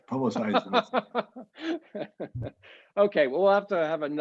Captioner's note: laughing